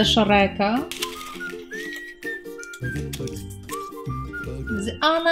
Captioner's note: rustling of paper